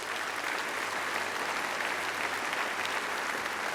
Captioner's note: applause